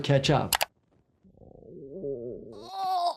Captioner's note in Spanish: clics del ratón